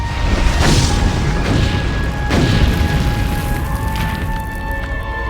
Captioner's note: meteorite whooshes; meteorite impacts and explodes